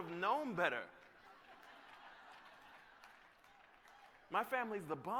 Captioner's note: laughter